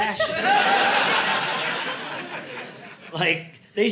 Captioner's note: audience laughing